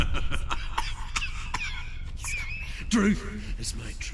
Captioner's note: laughter turns into hacking cough; laughs